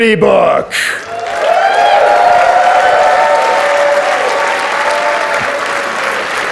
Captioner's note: audience cheers and applauds